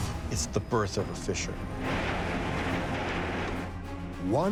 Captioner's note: banging